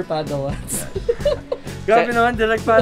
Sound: laughs

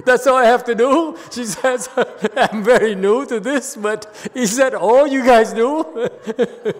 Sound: laughs

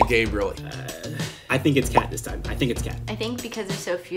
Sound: groans

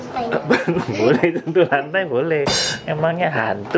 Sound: laugh

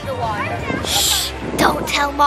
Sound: shushing

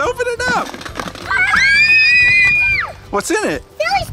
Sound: the girls scream

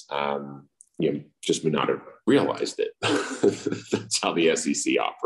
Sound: laughs

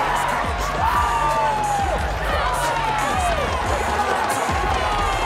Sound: crowd cheering; hip hop music

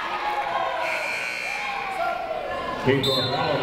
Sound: buzzer ringing

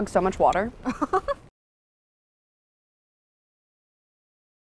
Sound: laughing

